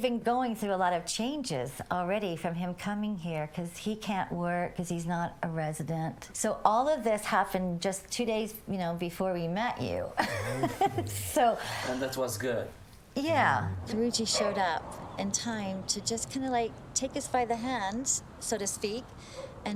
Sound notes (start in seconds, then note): 10.2 笑声; 10.2 chuckles